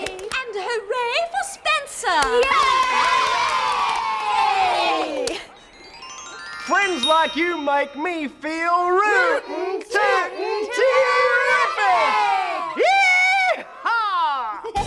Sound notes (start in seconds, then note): 2.3 cheering